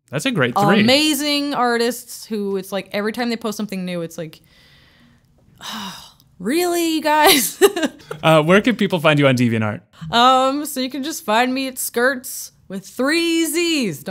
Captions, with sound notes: - That's a great three. - amazing artists! It's like every time they post something new, it's like, "(sighs) Really you guys?" - Where can people find you on DeviantArt? - You can just find me at Skirtzzz, with three z's.